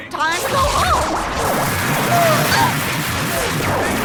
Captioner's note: zapping; chanting Inkyboo, Quatemain